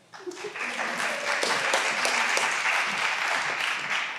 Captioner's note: all applauding